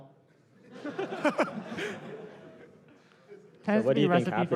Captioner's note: laughter